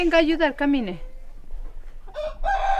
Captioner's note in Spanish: canta gallo